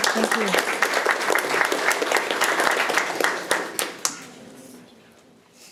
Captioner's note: audience applauding